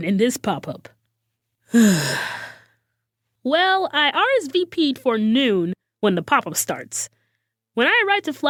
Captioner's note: sighs